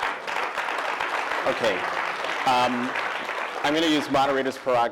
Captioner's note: applause